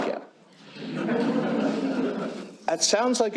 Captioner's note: laughter